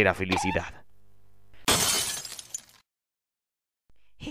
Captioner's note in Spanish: vidrio rompiendose